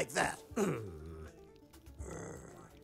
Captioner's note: elcano grunts